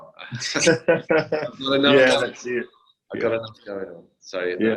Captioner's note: laughs